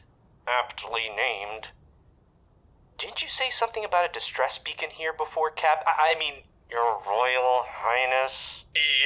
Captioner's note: strained